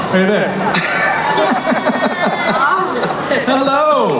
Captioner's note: laughing